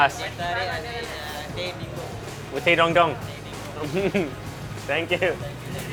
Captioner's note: speaking foreign language; chuckling